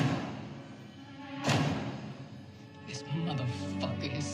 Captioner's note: dramatic banging